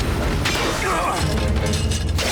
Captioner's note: grunting